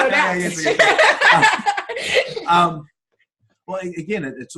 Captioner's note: laughter